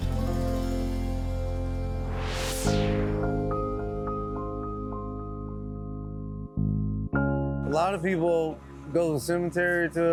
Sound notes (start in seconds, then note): 2.0 air whooshing; 2.1 mellow orchestral music